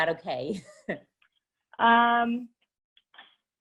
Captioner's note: laughs